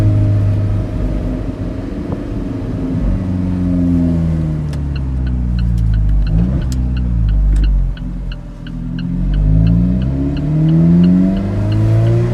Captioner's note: engine revs